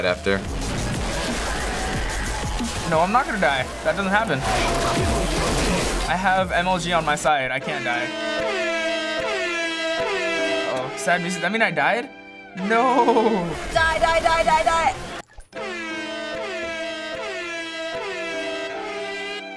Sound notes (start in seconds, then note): 7.5 repetitive blaring; 8.0 sad music; 15.5 repetitive blaring; 15.5 sad music